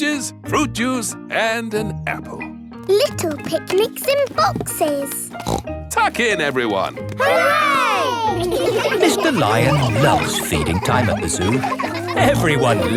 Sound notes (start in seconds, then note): 5.4 snorts